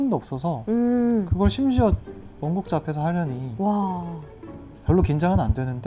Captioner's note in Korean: 두근